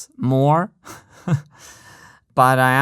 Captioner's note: chuckles